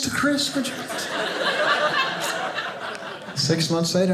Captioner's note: audience laughing